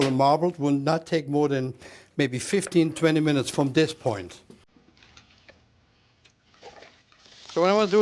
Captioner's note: sizzling